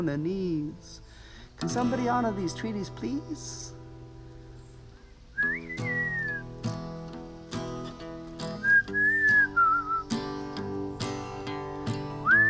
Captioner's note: awkward silence...lonely whistling